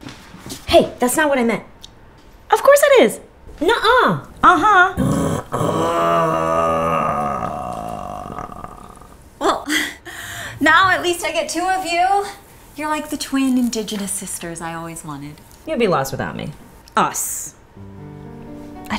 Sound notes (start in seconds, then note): 5.0 growling